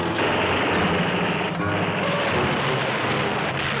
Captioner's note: guns firing